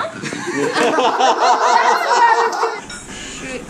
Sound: laughter

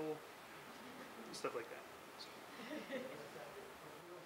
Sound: laughing

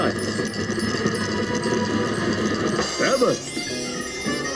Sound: bells dinging

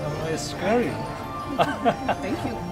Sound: laughter

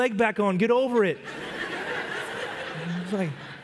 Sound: congregation laugh

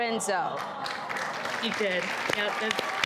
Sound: crowd exclaiming and applauding

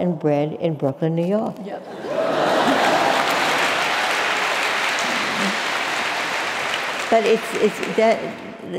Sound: laughter

